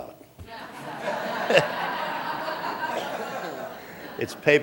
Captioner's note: laughter